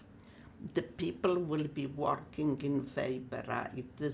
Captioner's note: german